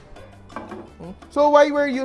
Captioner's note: knock